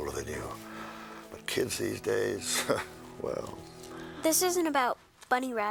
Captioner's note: chuckles